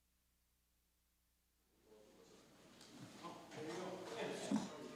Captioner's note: chatter